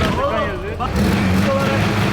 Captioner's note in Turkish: araba motor sesi̇